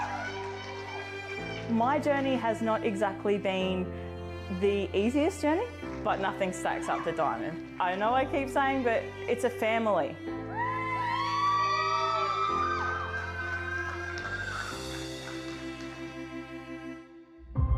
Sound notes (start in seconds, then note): 0.0 everyone cheering; 10.5 everyone cheering; 10.6 triumphant music